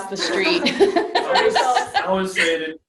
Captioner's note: laughing